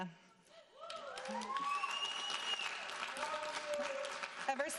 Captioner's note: audience cheering